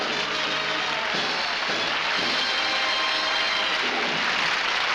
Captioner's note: applause